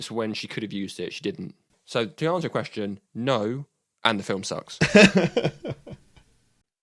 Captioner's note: laughter